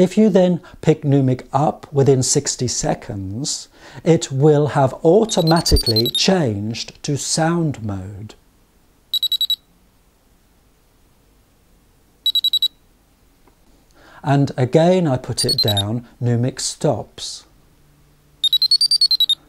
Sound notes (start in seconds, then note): 5.1 noumic starting up sound; 9.6 2 beep sounds from the noumic device